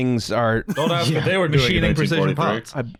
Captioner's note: laughing